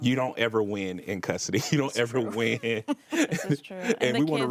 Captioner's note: laughs